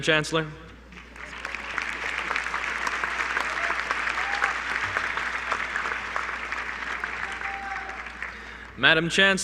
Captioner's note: applause